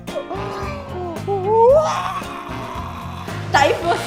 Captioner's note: gasp